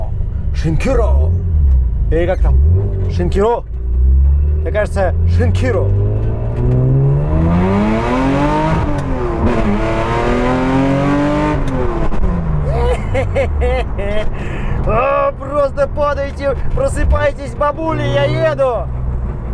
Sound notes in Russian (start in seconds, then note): 12.6 смеется как злодей; 12.6 восторженные звуки радости